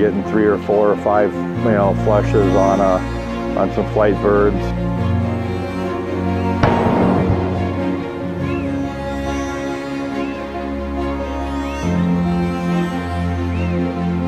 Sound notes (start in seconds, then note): 6.6 gun shot; 8.3 violin music